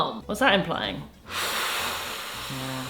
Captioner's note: breathes heavily